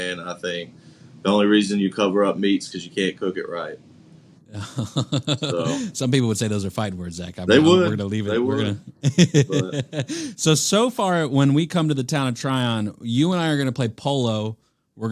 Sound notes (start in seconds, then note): 4.5 laughs